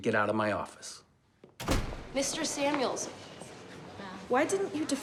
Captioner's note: door slams